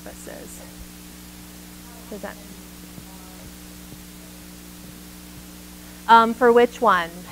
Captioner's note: microphone feedback drowns out audience member